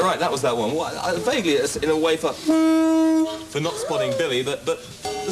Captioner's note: disapproving horn noise; approving gong